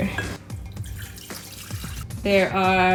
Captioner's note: water pouring